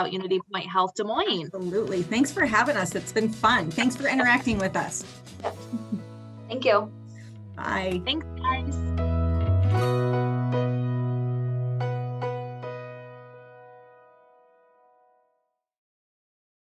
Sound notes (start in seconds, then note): 5.5 chuckles; 9.5 outro music